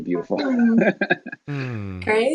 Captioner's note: laughing